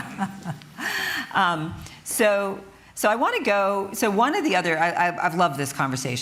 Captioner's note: chuckles